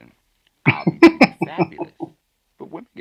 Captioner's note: chuckling